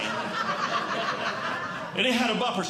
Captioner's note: audience Laughing